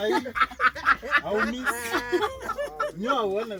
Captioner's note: ladies laugh